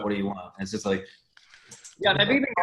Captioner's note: murmurs